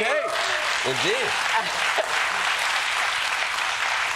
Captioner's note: applause